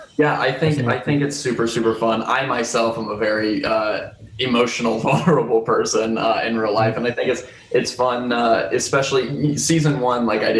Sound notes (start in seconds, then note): 4.4 chuckles